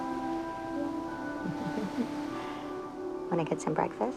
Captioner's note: giggling